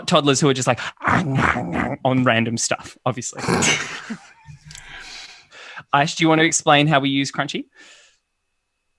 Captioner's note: chewing noises